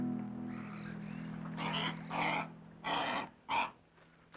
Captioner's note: bird squawking